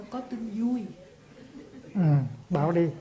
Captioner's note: audience laughs